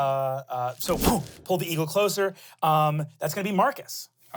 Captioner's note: whooshes